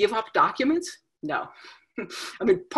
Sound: chuckles

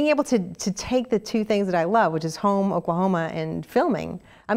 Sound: none

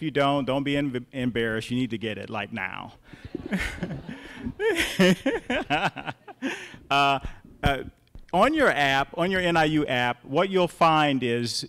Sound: laughter

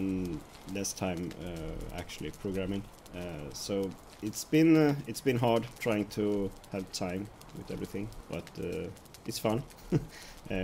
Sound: laughs

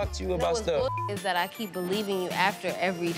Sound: beep

